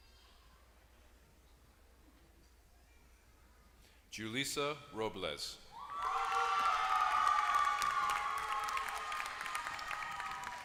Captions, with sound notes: >> Julicia Robles [APPLAUSE]